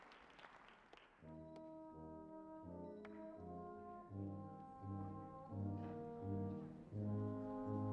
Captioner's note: applause